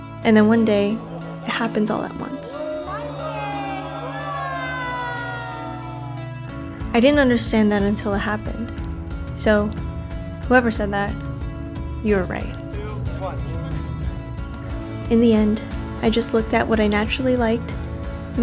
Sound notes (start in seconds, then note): 2.7 gentle guitar music continues; 4.3 group cheering; 14.0 gentle guitar music continues